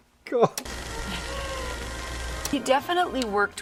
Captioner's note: projector running